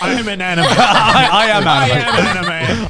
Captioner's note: everyone laughing